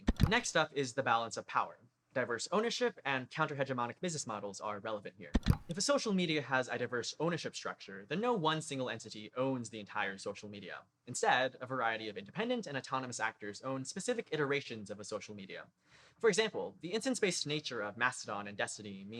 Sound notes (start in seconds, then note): 5.3 click